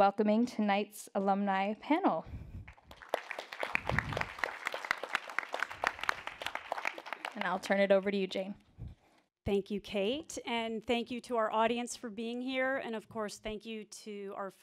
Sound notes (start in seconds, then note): 2.6 applause